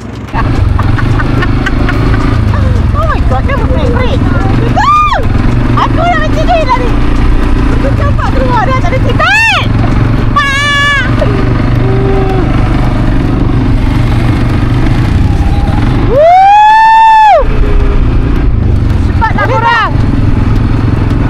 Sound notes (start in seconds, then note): 0.2 laugh; 4.8 scream; 11.8 scream